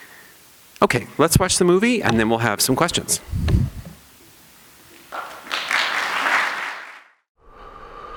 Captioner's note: applause